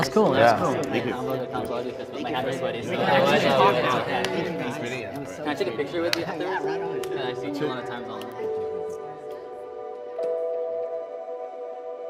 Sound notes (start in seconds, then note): 0.0 men chatting distinctly; 9.5 cool music